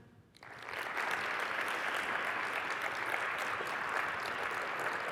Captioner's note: applause